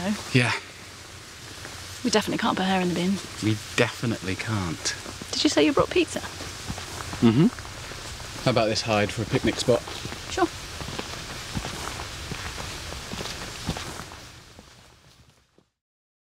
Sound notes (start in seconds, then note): 11.1 footsteps